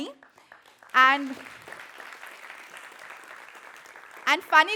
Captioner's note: applause